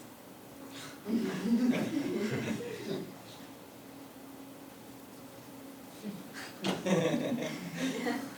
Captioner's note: laugh